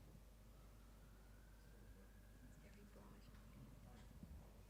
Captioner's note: siren wailing